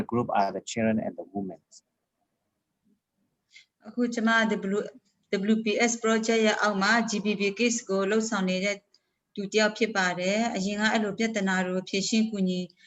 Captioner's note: speaking in another language/ Interpretation